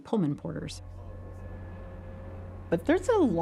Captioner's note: train bell ringing